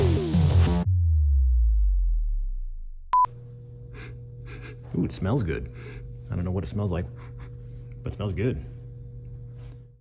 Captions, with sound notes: [music fades] [sniffs] Ooh, it smells good. [sniff] I don't know what it smells like, [sniff sniff] but it smells good.